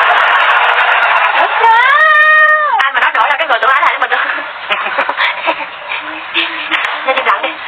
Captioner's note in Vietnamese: Vỗ tay